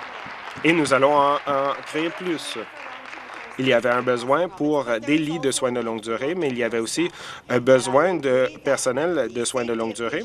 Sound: applause

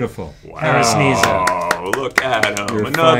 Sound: applause

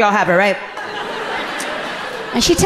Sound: audience laughing relatably

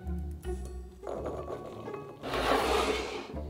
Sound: bowl sliding; beans dropping

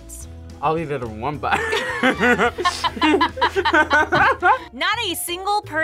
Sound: both laugh

